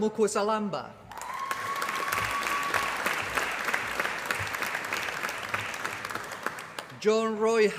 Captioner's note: applause